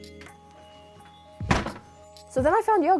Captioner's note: door slamming